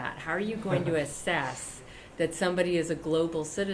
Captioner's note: laughter